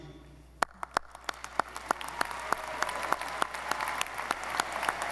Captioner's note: audience applauding